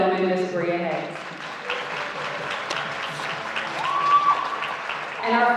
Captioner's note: audience applauding